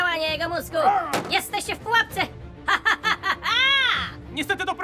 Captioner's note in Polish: złowieszczy śmiech